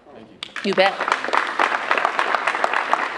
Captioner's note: applause